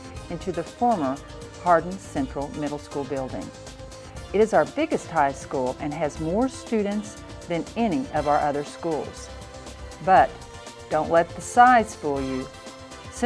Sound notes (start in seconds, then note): none